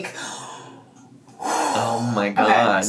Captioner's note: exhales deeply